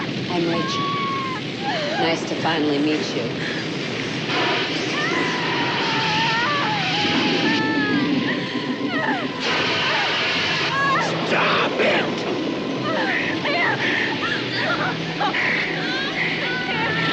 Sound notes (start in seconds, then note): 4.3 whoosh; 4.4 Lisa screams; 12.8 screaming